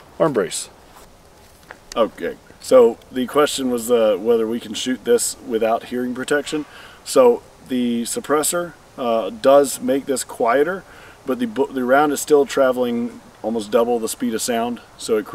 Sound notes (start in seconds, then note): none